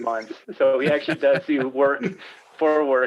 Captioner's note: laughing